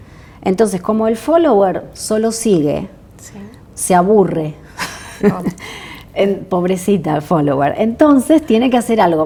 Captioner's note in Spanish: risas